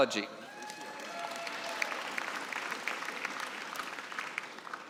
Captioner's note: cheering and applause